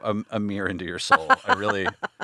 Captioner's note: laughing